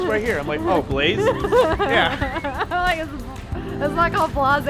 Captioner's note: laughing